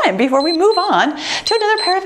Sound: timer beeps

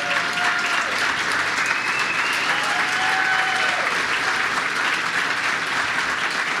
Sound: applause

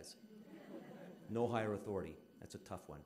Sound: audience laughing

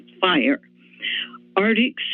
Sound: inhales

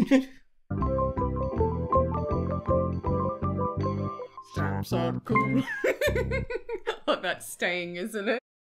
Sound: laughs

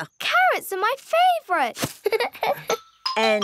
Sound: giggles

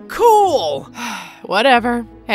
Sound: Anya sighing

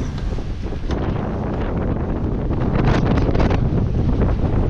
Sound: wind blowing

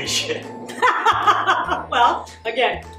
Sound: laughter

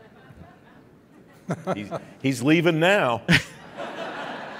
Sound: laughing

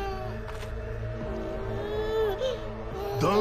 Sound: baby starts crying

